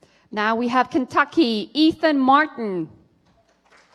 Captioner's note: applause